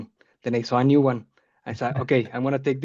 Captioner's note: chuckling